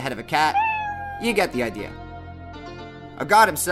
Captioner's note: meow